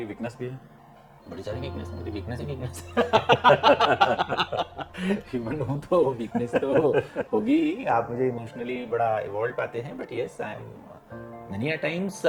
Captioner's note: laughs